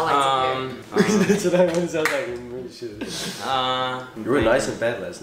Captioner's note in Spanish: risas